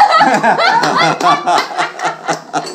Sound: laughter

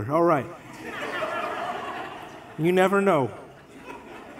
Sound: congregation laughs

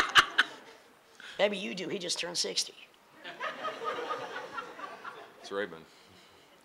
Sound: laughing; laughing

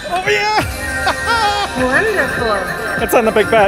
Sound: laughing

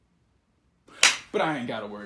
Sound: claps hands

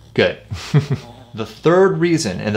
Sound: chuckles

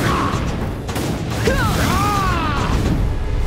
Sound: screaming

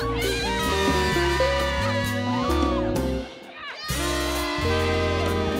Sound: students cheering indistinctly

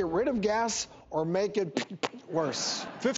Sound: fart noise

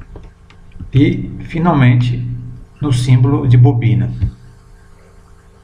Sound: solenoid or motor

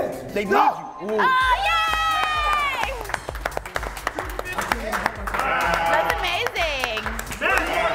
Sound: applause

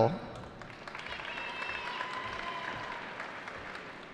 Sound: cheering

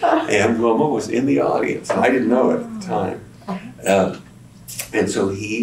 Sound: laughter

